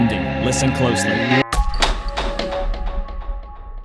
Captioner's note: door opens